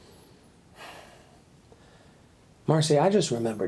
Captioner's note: Randall sighs